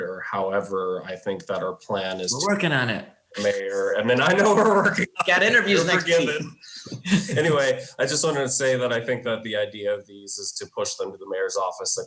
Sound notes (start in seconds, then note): 3.3 laughs